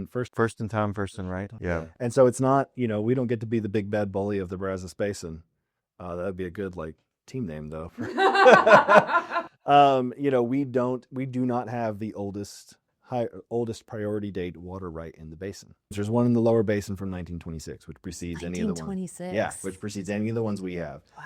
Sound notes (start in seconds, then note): 8.0 laughter